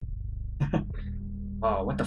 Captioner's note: chuckles